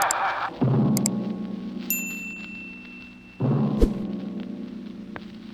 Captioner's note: bell rings